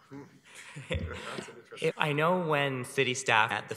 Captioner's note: chuckles